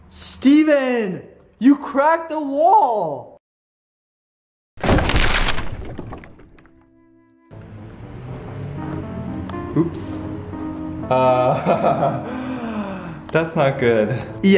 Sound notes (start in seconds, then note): 4.8 crunching; 11.1 chuckles